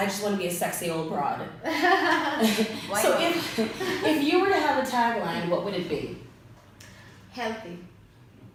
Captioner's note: laughs